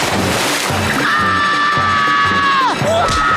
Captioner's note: screaming